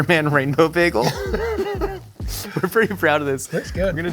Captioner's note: Jake laughs